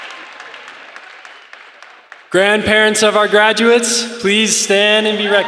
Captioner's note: applause